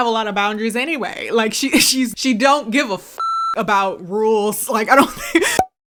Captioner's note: beep; laughs